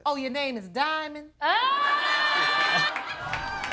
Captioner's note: audience cheering